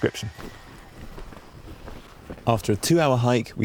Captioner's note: feet padding; ground crunching